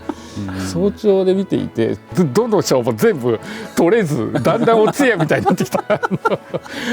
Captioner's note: laughs